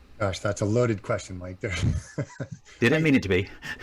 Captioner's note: laughs